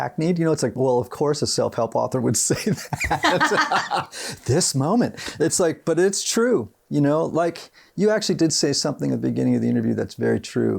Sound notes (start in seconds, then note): 2.7 laughs